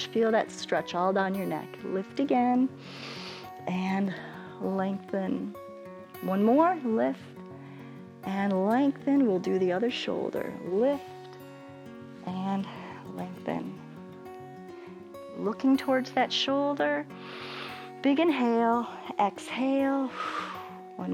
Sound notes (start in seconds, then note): 2.8 inhales; 17.2 inhales; 20.0 exhales